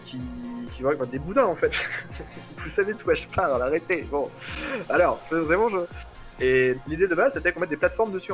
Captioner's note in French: rires